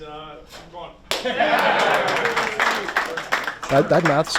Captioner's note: players clapping